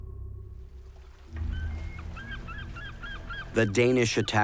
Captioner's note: seagulls squawking and water lapping